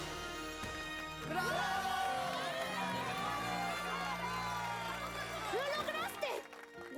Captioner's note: loud cheering